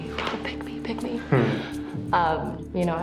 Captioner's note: chuckles